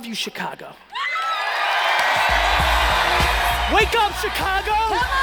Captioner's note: cheering and applauding